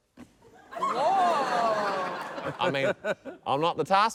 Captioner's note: laughter